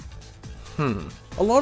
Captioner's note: Judgemental Kiwi noises